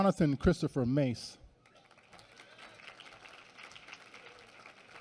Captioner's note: applause